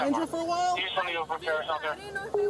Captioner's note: radio chatter